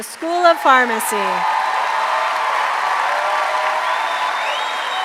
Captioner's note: applause